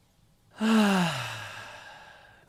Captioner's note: relieved sigh